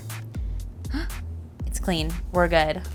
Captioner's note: gasping